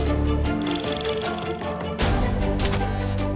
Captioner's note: reel flickering; dramatic music continues